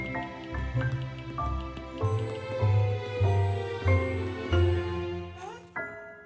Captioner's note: phone tapping; jaunty Christmas music